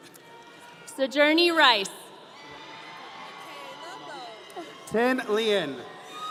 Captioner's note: audience cheering